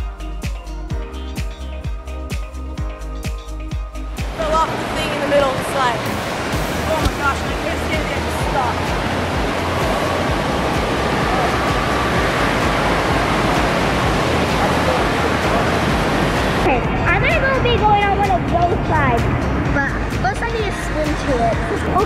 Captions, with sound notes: (upbeat music) - Fell off the thing in the middle of the slide. Oh my gosh, I couldn't see anything I just stopped. (water roaring) - Okay, I'm gonna go be going on one of those slides, plus I need to swim to it.